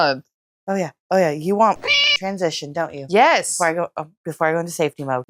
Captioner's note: meow